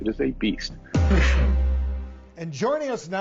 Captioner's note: Drew coughs